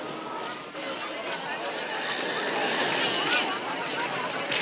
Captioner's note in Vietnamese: Rung chuyển, Tiếng trẻ con khóc